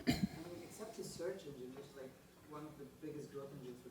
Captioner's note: voiceover